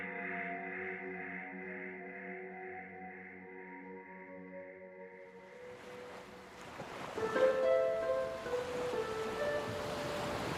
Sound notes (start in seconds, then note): 5.4 water splashing; 7.3 gentle music